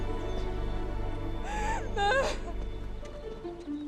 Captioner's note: cries